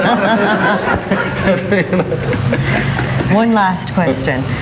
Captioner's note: everyone laughs